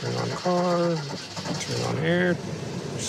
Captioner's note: engine starts